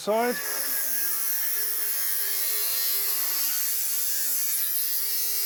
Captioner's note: angle grinder whirring